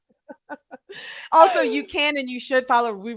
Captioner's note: both laughing